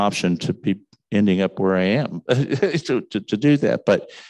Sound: chuckles

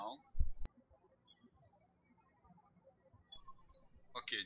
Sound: birds chirping

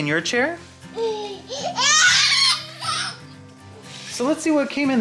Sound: baby noises

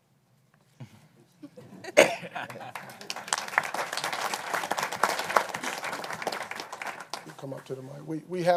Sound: applause

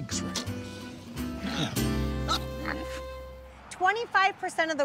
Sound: pigs oinking

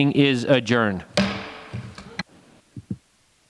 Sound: gavel strikes

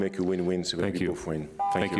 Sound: beep

